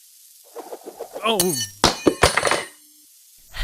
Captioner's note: drops spatula